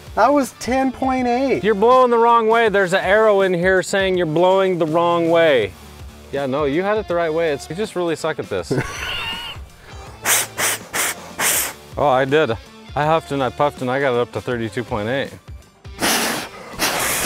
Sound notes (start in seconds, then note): 10.6 blowing